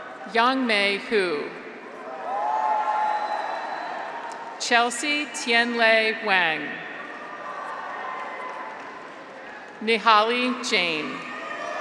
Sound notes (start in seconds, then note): 0.0 graduates cheer; 1.9 graduates cheer; 7.0 graduates cheer; 7.6 audience applauds